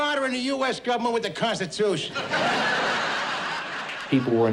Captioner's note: laugh track